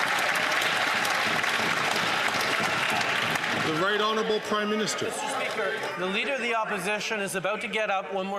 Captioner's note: some Applause